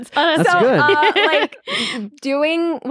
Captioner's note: laughing